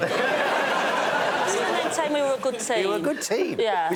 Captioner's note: laughter